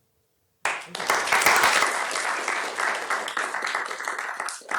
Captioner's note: applause